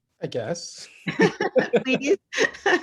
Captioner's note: laughs